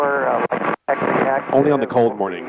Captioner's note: radio static